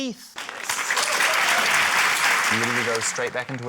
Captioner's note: applause